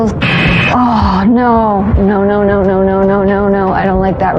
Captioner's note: groroans